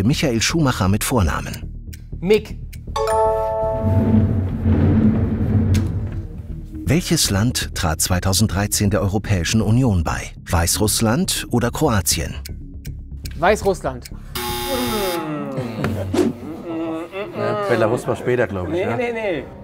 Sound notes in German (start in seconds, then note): 14.8 Sie murmeln